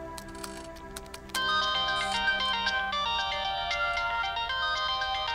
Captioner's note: Phone ringing